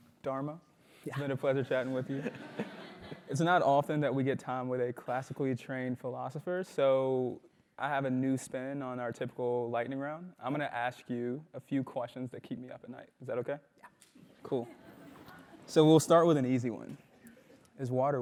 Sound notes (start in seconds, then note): 1.8 laugh; 14.3 laugh